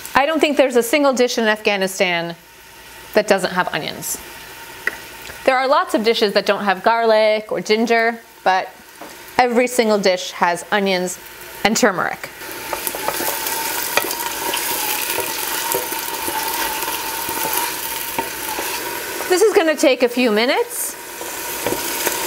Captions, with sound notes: I don't think there's a single dish in Afghanistan that doesn't have onions. There are lots of dishes that don't have garlic or ginger but every single dish has onions and turmeric. (oil bubbling) This is gonna take a few minutes.